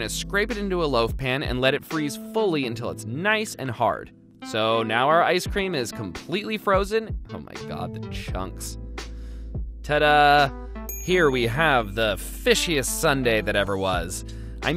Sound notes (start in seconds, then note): 10.9 bell dings